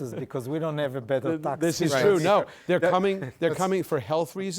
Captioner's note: laughs